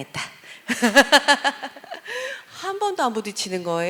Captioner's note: laugh